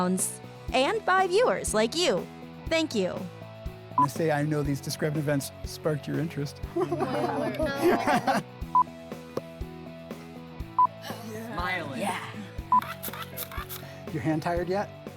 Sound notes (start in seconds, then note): 8.6 beep; 12.6 beep